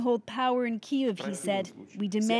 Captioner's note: speaking Foreign Language